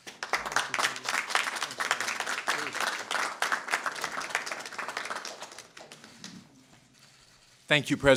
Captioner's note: applause